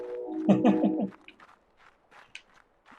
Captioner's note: chuckles